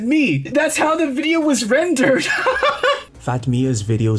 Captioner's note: laughs